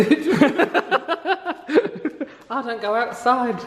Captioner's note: both laugh